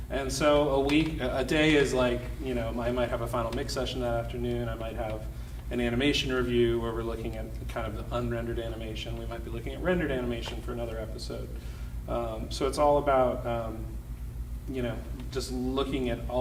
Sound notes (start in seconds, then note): none